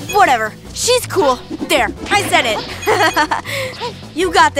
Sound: giggles

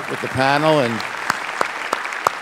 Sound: applause

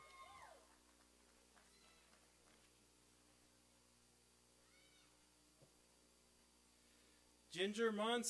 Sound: applause and cheering

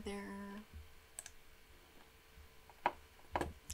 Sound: mouse clicking

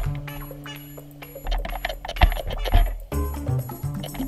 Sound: crunching, munching

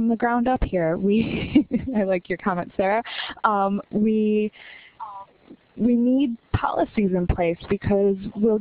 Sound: laughter

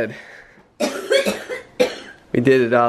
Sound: coughing

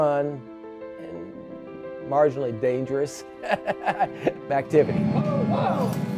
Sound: chuckling

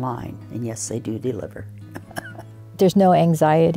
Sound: laughs

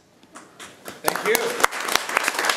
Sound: room applauds

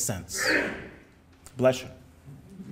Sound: audience member sneezes

